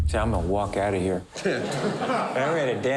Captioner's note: they laugh